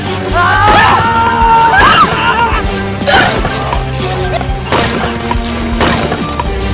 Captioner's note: fighters grunting; weapons thudding